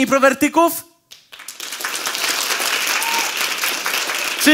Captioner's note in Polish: oklaski publiczności